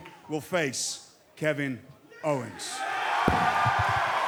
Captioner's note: cheers and applause